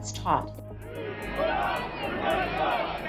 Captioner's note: crowd